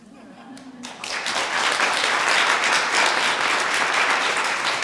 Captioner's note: applause